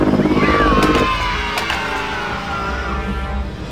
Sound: children Yelling Yay

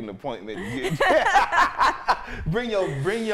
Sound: both laughing

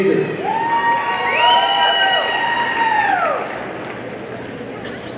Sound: audience cheering

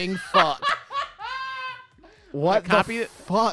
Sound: laughing

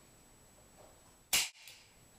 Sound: snap

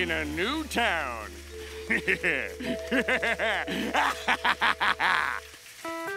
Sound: laughing

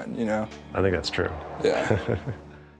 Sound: laughs

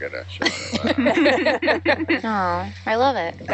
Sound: people laughing

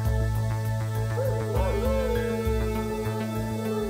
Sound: dog howls

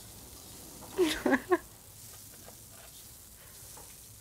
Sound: laughing

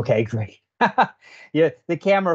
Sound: laughs

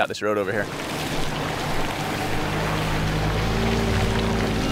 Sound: engine revving

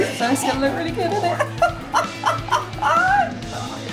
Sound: laughs

